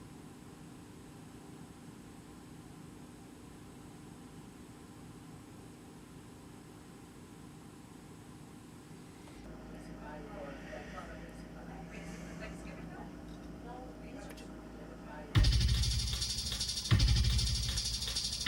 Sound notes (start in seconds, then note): 9.6 people chatting; 15.4 dramatic ominous music